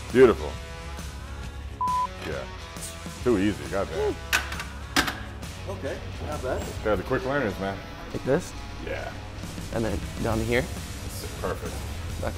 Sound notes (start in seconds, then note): 5.0 bar clanging